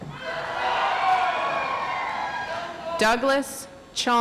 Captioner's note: audience applauds